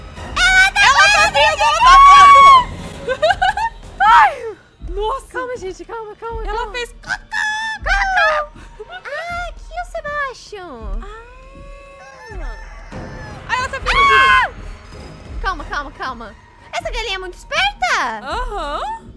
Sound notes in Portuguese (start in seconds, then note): 14.3 grita